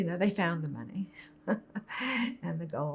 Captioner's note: laughing